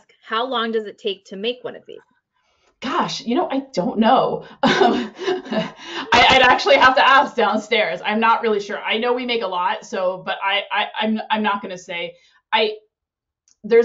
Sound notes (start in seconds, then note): 4.6 laughs